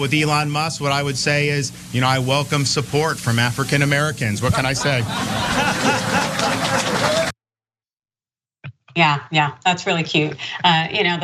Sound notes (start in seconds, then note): 4.5 laugh